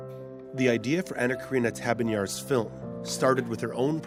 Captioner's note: voiceover